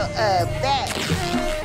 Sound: shirt rips

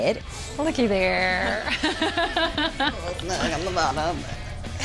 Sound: laughs

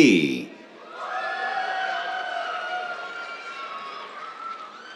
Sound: cheers, applause

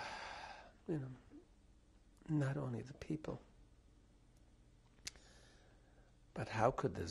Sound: pauses for 3 seconds

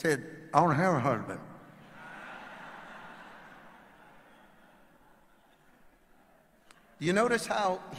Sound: audience laughing

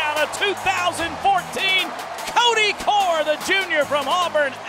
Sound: voiceover

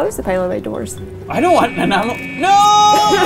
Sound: beeping

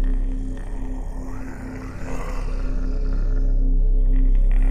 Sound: Mohuru growling

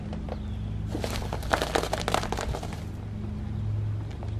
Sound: crunching noodles

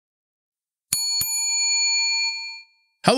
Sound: bell ringing

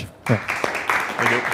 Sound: applause

